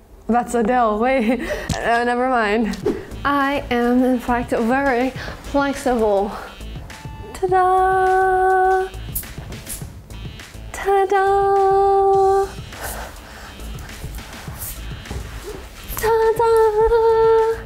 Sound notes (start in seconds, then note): 1.3 image pops; 2.3 image squelches; 2.8 image whooshes; 8.9 fabric shifting; 13.8 fabric shifting